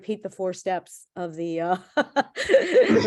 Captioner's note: laughing